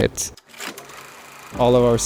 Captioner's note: footage whirring